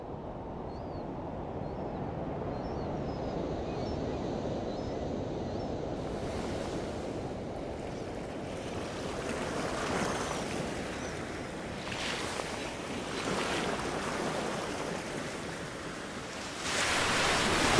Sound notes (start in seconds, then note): 0.2 birds singing; 8.5 waves crashing against shore